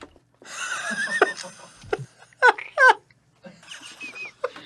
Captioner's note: laughing